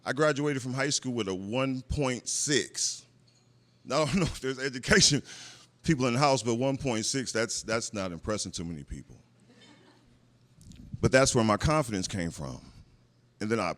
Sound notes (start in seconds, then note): 9.4 laughter